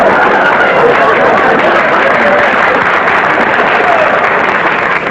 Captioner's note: audience laughter; applause